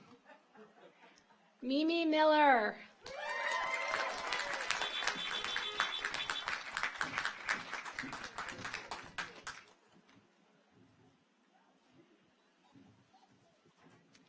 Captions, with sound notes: Mimi Miller. (audience applauds) (car horns honking)